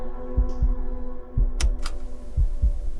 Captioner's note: heartbeat thumping; tense music; heartbeat thumping; tense music fades; button clicks; heartbeat thumping